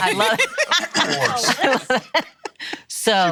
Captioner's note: laughing